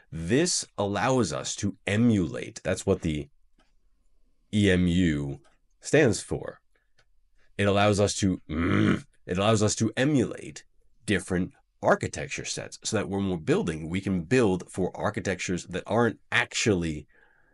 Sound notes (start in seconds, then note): 8.5 grumble